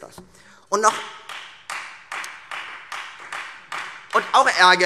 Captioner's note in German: Beifall